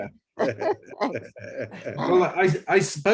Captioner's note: laughing